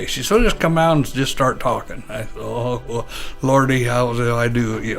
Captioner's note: chuckles